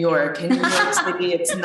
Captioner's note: laughter